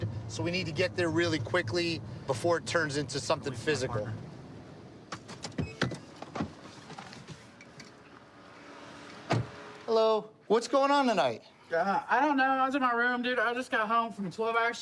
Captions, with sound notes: So we need to get there really quickly before it turns into something physical. [beeping] Hello. What's going on tonight? I don't know. I was in my room. Dude, I just got home from a 12-hour shift.